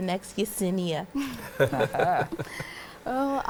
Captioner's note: laughing